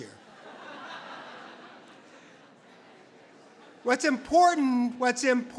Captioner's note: audience laughs